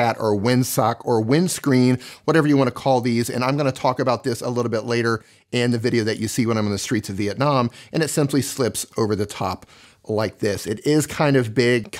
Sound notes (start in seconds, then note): none